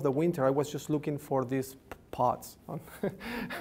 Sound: laughs

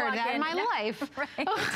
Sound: laughter

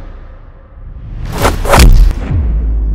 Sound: punches

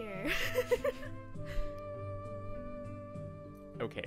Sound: laughs

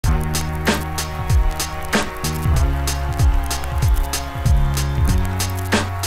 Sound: funky instrumental music; audience cheering

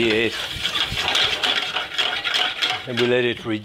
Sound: pan rattles

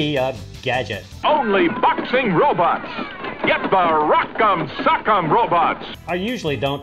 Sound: old commercial plays

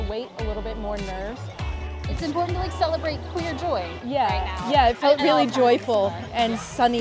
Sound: people walking, jogging pushing stroller

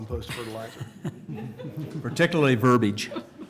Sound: laughter

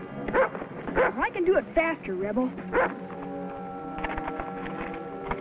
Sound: Rebel barks

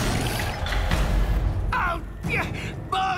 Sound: grunting

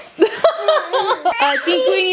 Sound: laughing

